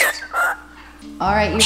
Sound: bird squawking

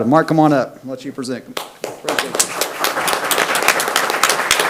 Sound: people clap

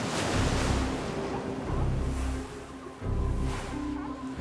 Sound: seals bark

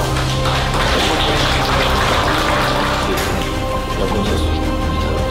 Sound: applause

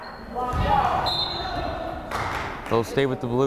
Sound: whistle blows

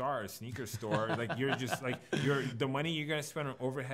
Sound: laughs

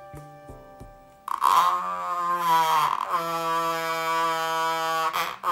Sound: peaceful music; vibrator buzzes

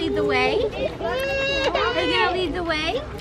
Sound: baby crying

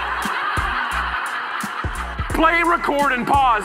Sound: audience laughing

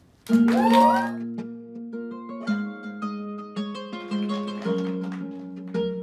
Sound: audience cheering

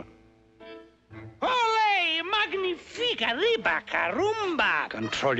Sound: speaking in Spanish

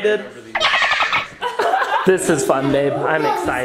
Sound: dolphin Squeaks

